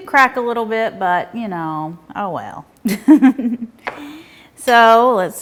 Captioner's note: laughing